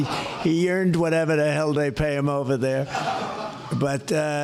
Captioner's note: laughter